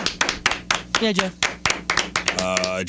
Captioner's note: clapping